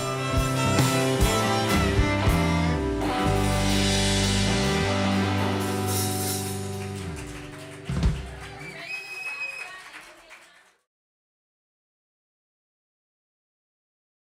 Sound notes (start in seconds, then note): 5.4 applause